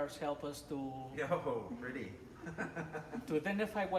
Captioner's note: laughs